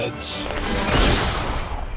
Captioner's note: bang